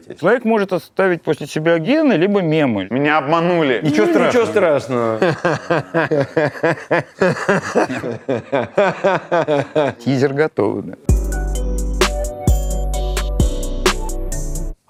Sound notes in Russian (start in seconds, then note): 3.8 Смеётся; 11.0 Музыкальная заставка